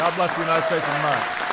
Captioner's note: applause